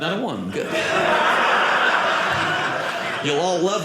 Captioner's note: audience laughing